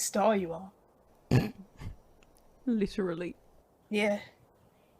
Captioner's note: Regulus laughs